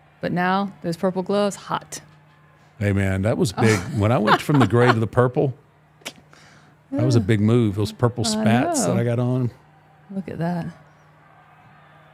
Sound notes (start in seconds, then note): 3.6 laughing